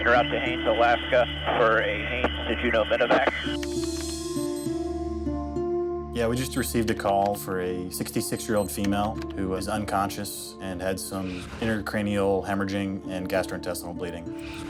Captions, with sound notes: (keys typing) (watch alarm beeping) - Yeah, we just received a call for a 66-year-old female who is unconscious and had some intercranial hemorrhaging and gastrointestinal bleeding.